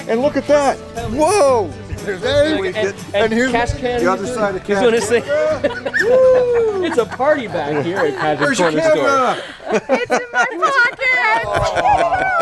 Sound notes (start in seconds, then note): 4.7 laughter in the back ground; 4.8 laughter